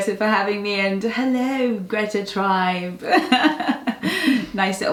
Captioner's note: giggles